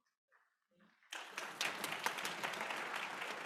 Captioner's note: applause